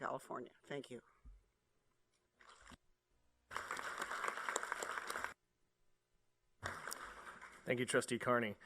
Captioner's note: applause